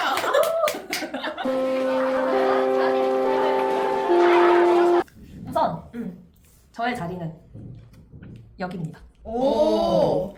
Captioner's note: laughter